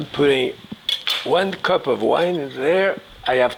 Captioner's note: knife drops